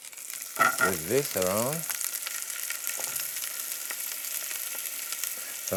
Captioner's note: sizzling